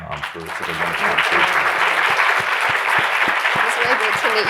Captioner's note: audience applauding